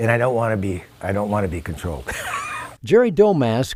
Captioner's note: laughs